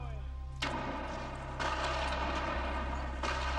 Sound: speaking in a foreign language; guns firing

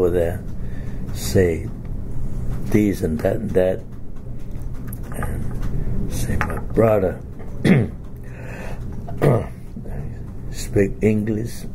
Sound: coughs

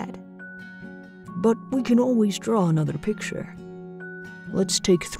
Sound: voiceover

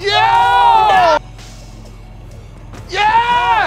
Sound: shouting

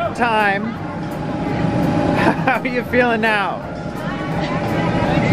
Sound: laughing

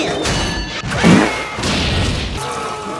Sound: fart noise = funnie

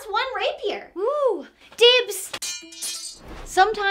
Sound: sword clatters

